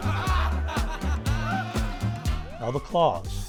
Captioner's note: audience laughing